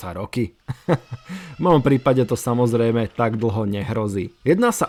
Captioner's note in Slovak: smiech